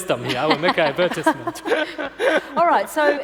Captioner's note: laughing